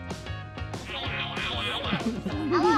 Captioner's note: nomming sounds